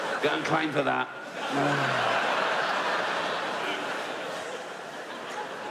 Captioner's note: audience laughs